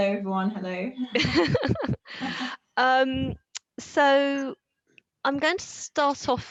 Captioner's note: laughs